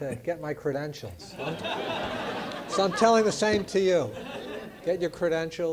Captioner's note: laugh